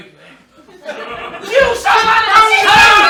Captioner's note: they bicker